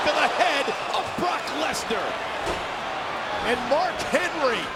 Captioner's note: sportscaster shouting; crowd moaning